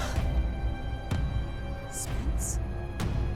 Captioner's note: Rachel gasps